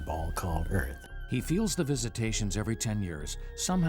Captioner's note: voiceover